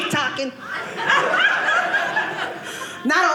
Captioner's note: audience laughing